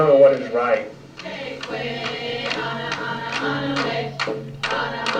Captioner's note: chanting